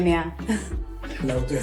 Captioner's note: laughing